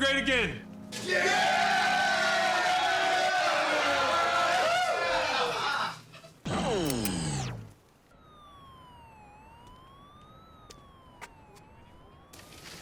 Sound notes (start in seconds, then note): 1.0 all cheering; 8.0 police siren blaring